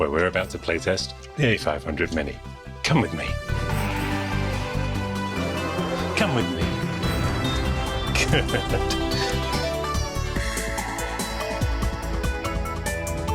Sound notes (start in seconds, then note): 9.3 laughs; 10.6 upbeat music